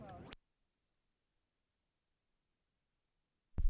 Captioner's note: silence